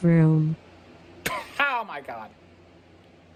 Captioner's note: laughs